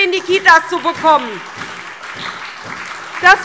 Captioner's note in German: Beifall SPD, Freie Demokraten und DIE LINKE